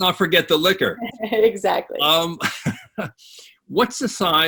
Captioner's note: chuckling